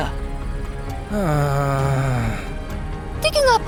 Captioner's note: sighs